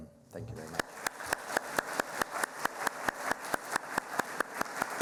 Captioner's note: applauding